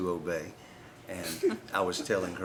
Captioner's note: laughter